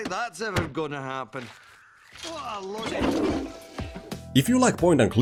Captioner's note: flushing toilet